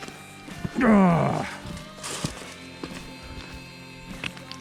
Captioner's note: groaning